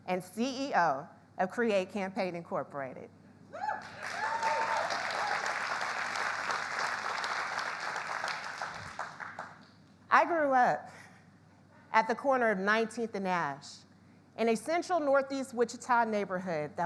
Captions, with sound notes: and CEO of Create Campaign Incorporated. [audience cheering] [audience applauds] I grew up at the corner of 19th and Ash, in a central Northeast Wichita neighborhood